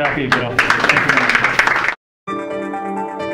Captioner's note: applause; upbeat music